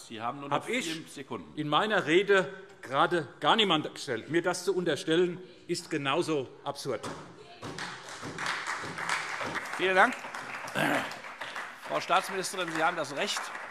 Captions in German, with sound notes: Unter Generalverdacht habe ich in meiner Rede gerade niemanden gestellt. Mir das zu unterstellen, ist genauso absurd. [Beifall SPD und DIE LINKE] Vielen Dank. - Frau Staatsministerin, Sie haben das Recht,